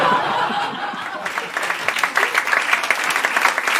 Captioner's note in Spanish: Risas; Aplausos